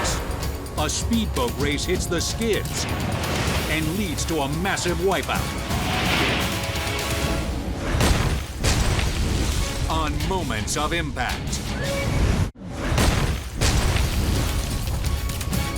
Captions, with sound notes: Plus, a speedboat race hits the skids and leads to a massive wipeout. (boat crashes) (logo slams) On "Moments of Impact." (logo slams)